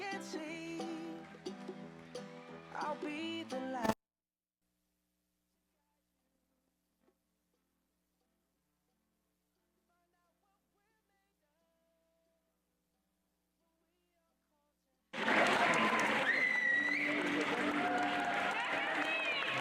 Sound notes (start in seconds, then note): 15.1 crowd cheering